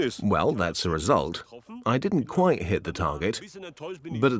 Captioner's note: in German; dubbed in English